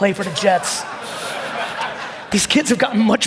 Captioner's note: audience laughing